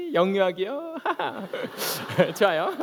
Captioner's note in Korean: 웃음